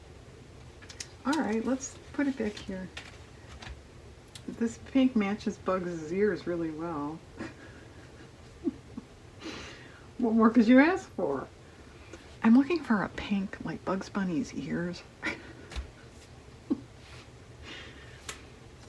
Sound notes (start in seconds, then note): 9.4 laughs; 17.4 laughs